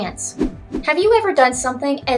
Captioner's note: swoosh swoosh